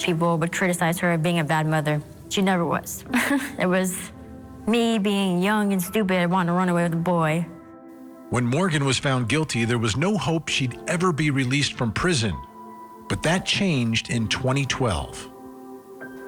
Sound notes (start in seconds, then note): 3.1 chuckles